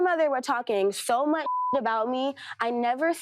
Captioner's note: beep